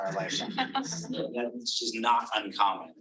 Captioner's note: audience laughing